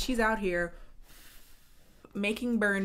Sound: blows

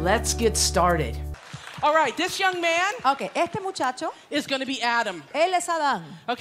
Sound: Spanish

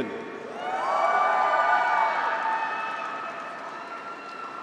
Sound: graduates cheer

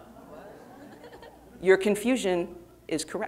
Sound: audience laughing

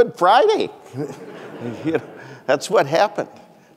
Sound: audience laughing

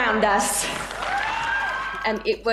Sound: applause

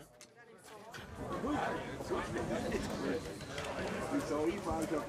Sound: bubble of voices from those celebrating in the background

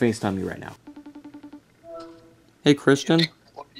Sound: phone ringing

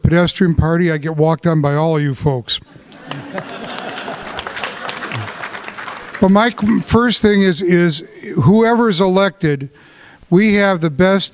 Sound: laughter, applause

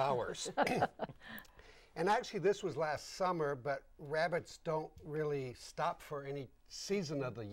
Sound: laughing

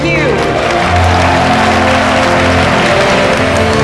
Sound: all cheering, clapping

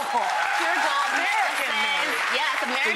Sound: audience applauds

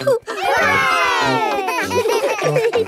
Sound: chuckles; laughing

